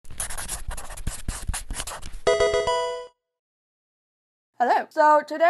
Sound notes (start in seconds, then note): 0.0 pen scratching; 2.2 game music